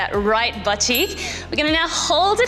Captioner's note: bell chimes